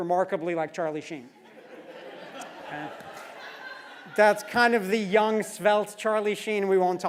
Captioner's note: laugh